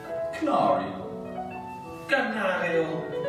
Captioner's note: speaking English; speaking Italian